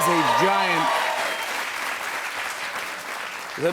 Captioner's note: cheers and applause